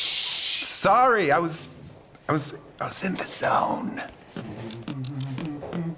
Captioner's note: quieter